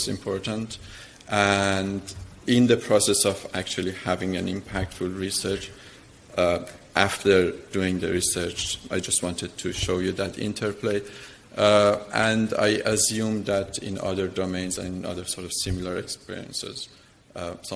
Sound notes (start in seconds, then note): none